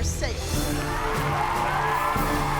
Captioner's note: cheering